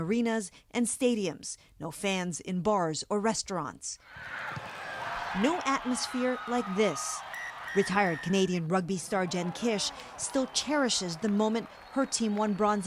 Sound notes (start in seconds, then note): 8.8 crowd noise